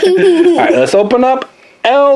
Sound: assistant laughs

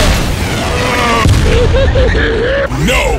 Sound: even more idiotic laughter

